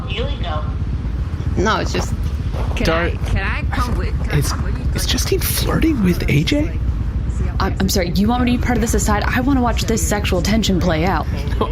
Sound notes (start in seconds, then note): 5.2 laughs